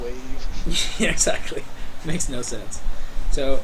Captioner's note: chuckling